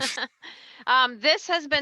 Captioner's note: laughs